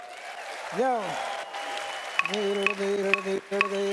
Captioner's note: audience cheers and applauds; rhythmic percussion and didgeridoo plays